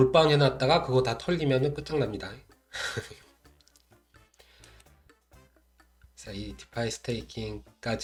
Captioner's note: hh